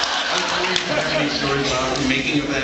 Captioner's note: laughs